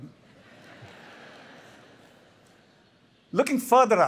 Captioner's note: laughter